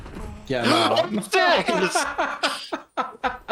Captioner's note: gasps